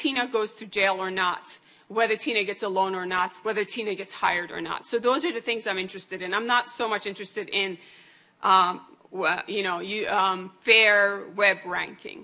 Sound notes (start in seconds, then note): none